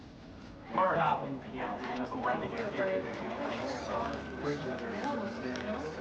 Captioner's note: employees chattering